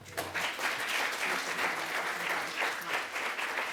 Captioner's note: applause